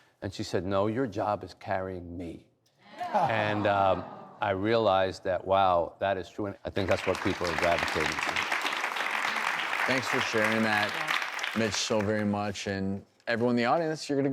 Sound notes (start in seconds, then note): 8.6 applause